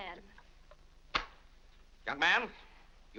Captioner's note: wallet slaps shut